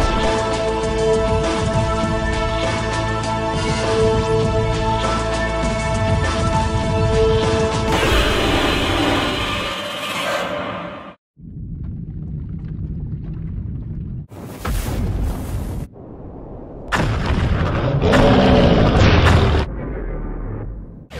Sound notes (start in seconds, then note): 0.2 upbeat music continues; 7.9 Legendary Godzilla roars; 19.6 growls quietly